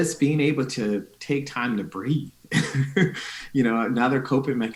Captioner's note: chuckling